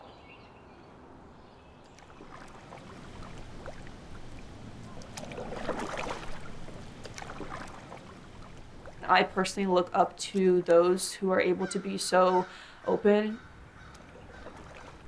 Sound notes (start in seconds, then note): 5.5 water splashing